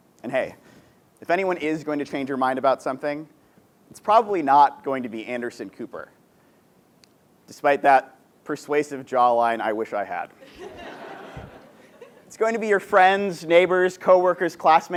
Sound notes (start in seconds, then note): 10.4 laugh